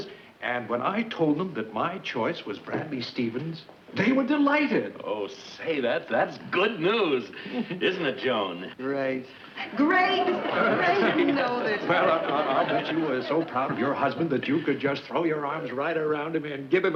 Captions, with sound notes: And when I told them that my choice was Bradley Stevens, they were delighted. - Oh, say that that's good news. Isn't it, Joan? - Great. Great! (audience laughs) - I bet you are so proud of your husband that you could just throw your arms right around him and give him a great big kiss!